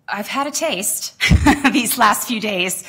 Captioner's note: laughter